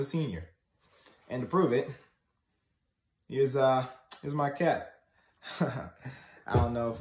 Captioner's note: laughs